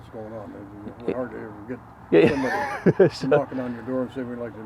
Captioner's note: laughs